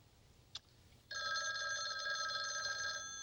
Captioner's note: telephone rings